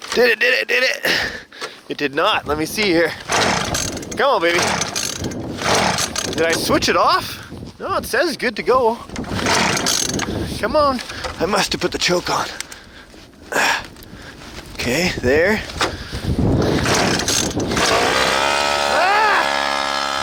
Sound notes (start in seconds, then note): 3.1 engine spluttering; 9.1 motor splutters; 14.1 grunts; 16.6 motor revving